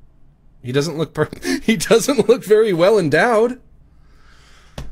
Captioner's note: laughs